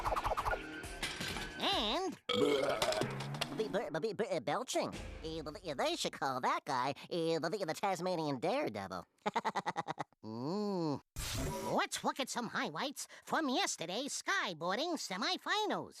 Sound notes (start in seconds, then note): 2.2 belching; 9.2 laughing